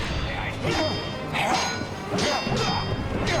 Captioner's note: metal clanging; grunting; dramatic orchestral music